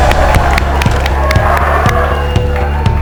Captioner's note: crashing sound